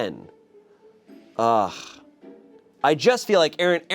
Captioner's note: sighs